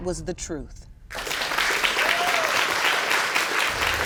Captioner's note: whooping and applause